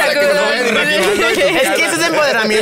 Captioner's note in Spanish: Risas